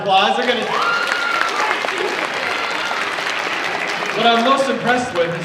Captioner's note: audience cheers and applauds